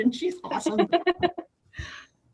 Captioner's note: laughs